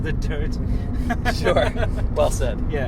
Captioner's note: laughs